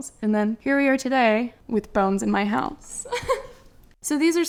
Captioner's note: laugh